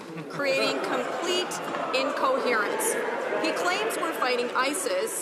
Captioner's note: some Applause